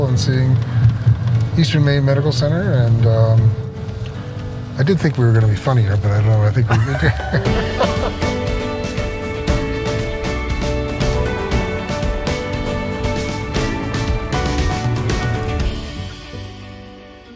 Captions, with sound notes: and seeing Eastern Maine medical center. And I do think we were gonna be funny here, but I don't know. (both laughing) (bright upbeat music)